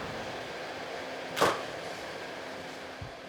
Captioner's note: camera clicks